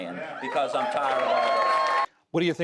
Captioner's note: cheering and applause